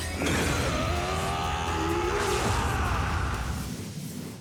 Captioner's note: is screaming